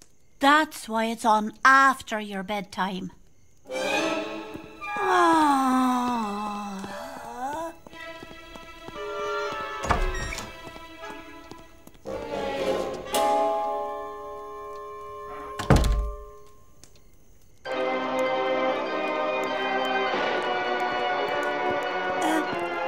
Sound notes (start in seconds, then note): 9.0 door creaks; 15.4 door closes